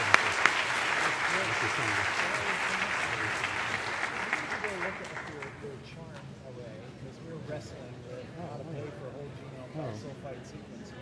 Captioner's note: applause